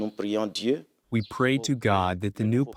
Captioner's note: through translator